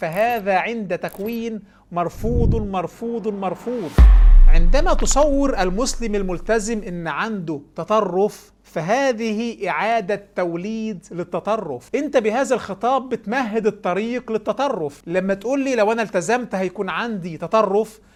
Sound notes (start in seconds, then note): 2.8 sound effects